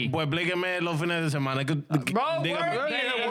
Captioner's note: speaking In Foreign Language